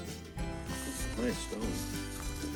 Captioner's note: dry grass crunches